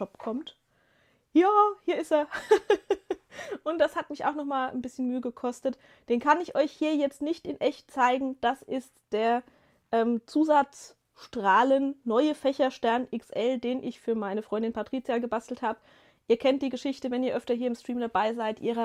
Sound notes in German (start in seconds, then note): 2.3 gelächter